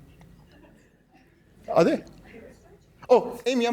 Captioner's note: laughter